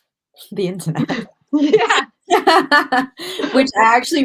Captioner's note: laughter